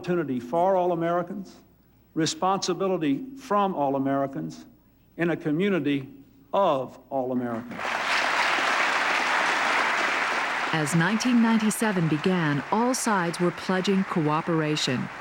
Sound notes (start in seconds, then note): 7.7 applause